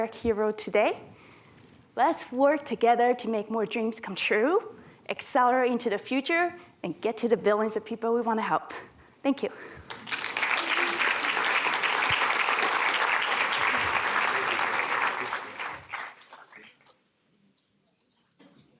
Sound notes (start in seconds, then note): 9.8 applause